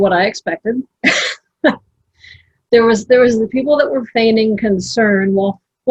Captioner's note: laughs